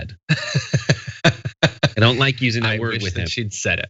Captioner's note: laugh